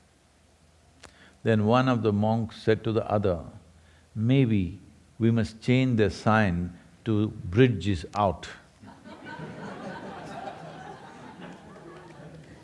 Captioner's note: laughter